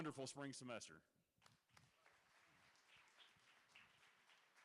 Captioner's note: applause